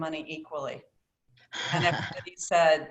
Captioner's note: laughter